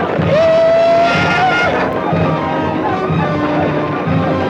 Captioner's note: Red Hawk howls